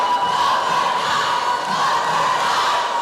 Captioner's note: chanting